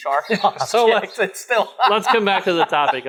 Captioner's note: men laughing